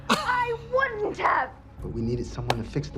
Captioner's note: Katya laughs